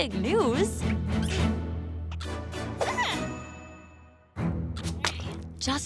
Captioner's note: caterpillar noises